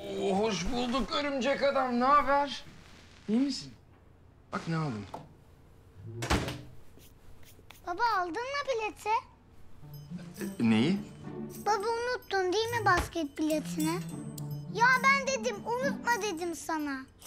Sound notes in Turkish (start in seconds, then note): 6.0 Kapı kapanma sesi